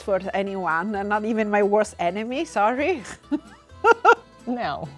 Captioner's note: laughing